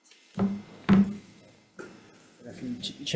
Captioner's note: object thudding